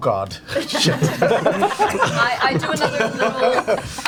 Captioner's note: all laugh